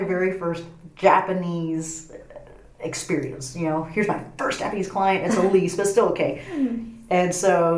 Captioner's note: laughs